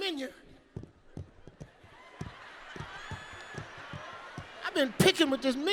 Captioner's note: nails scratching; audience laughing